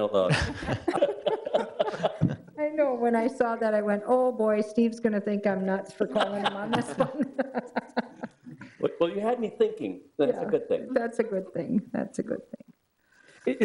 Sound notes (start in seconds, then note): 0.3 laughs; 6.1 laughs